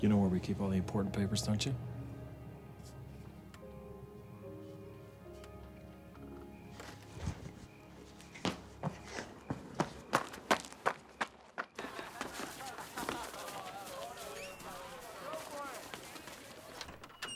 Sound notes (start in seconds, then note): 11.7 students laughing and chattering